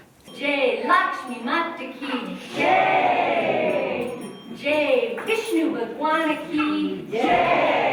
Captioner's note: foreign Language